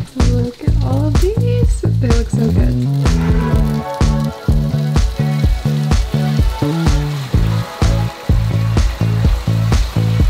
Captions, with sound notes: Look at all of these, they look so good. [upbeat music] [food sizzling]